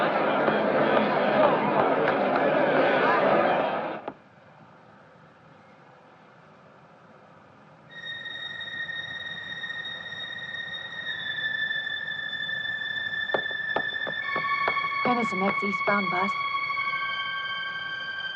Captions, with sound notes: (chatter abruptly stops) (eerie organ music) When is the next eastbound bus?